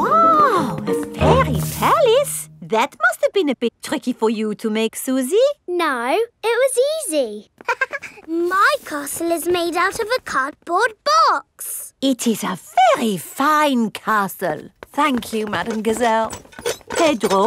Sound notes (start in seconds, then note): 7.6 chuckles